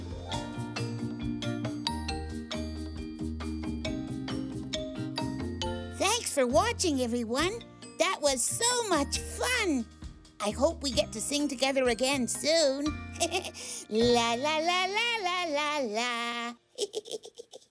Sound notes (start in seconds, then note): 0.2 upbeat music; 13.4 laughs; 16.7 Tobee laughs